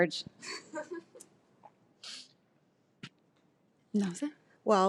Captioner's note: laughs